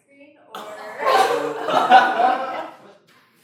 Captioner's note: laughter